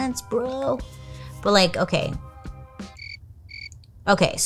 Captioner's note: crickets chirping